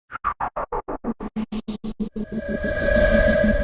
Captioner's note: electronic whirring